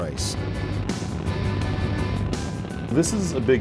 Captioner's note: rocket engines rumbling